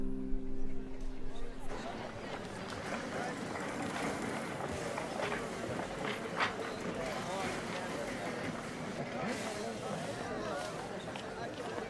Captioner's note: chatter